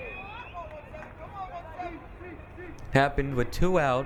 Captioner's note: crowd cheering